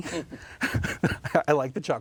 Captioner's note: both chuckles